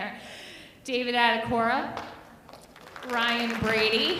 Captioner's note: audience applauding